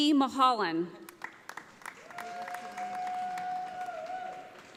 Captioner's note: audience applauding